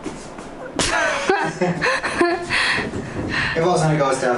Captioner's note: laughter